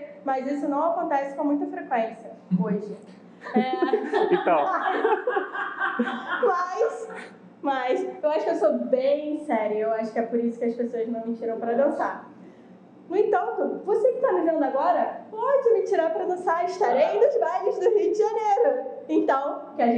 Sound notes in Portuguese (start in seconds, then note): 3.4 risos